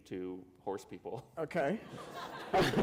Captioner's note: laughter